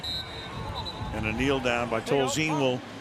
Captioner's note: whistles